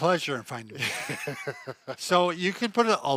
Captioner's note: laughing